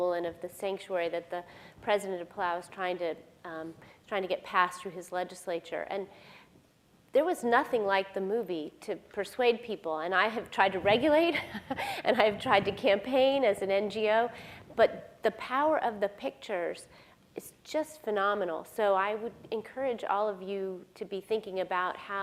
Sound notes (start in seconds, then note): 11.6 laughs